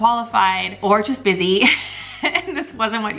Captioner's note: chuckling